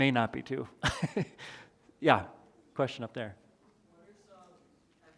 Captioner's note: chuckles